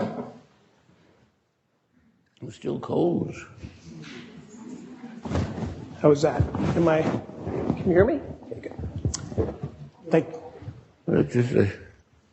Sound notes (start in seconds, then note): 3.8 audience muttering